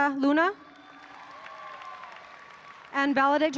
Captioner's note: audience applauding